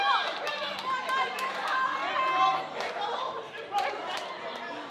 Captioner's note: crowd chattering